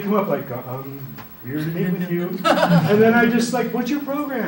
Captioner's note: laughter